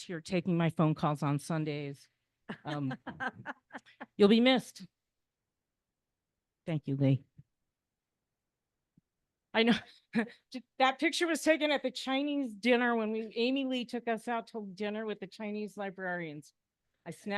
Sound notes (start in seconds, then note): 10.3 laughs